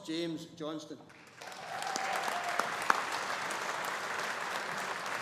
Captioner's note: audience applauding